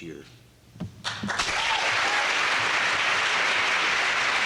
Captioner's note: applause